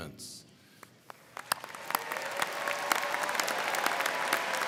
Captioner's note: crowd clapping